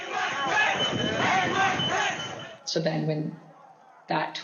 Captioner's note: chanting